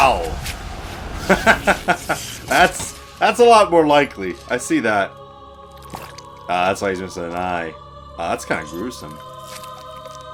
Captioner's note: laughs